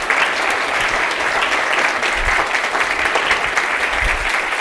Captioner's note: audience applauding